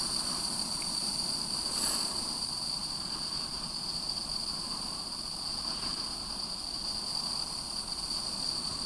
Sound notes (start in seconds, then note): 0.0 insects chirping